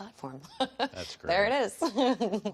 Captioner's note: chuckles